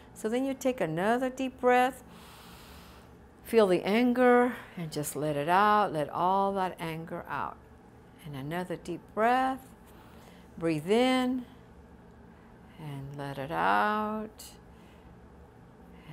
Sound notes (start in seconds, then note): 2.1 deep breathing